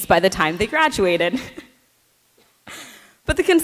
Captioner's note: chuckles